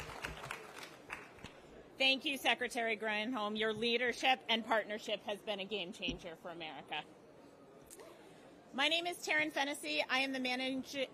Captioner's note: applause